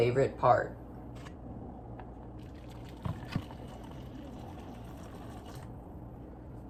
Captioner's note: pouring noises